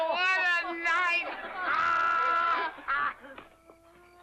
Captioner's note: hard laughter